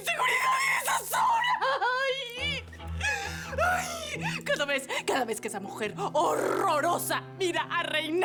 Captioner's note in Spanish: Grita y llora